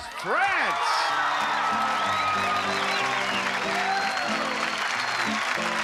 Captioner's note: applause